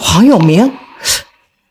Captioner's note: gasps